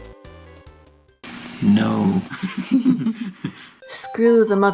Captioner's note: both laugh